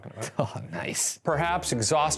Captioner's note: chuckles